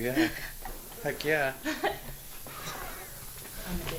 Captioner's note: giggle